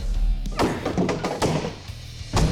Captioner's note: wood clatters